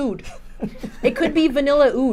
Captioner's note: chuckles